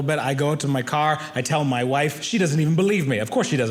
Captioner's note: none